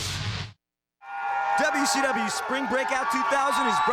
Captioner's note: crowd cheering